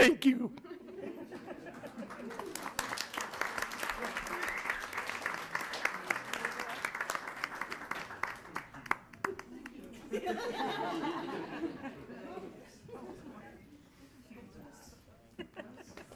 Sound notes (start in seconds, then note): 1.6 attendants clapping; 10.0 everyone laughing